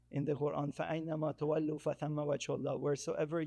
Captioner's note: speaking in foreign language